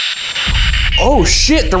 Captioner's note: spirit Box crackling